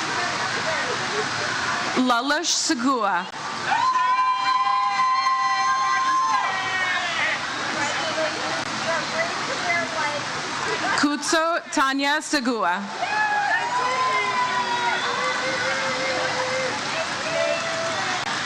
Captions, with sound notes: Lelouch Segua. (audience cheers) Kudzu Tanya Segua. (audience cheers)